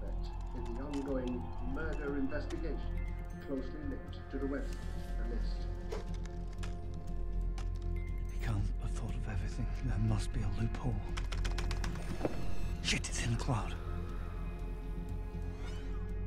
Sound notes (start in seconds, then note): 11.0 typing